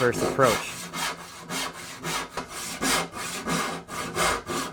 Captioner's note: quick sawing